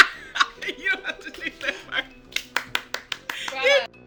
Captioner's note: laughs